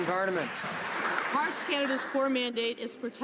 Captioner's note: some Applause